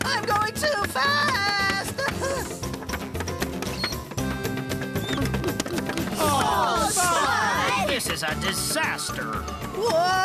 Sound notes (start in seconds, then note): 2.1 paint Cans Clanking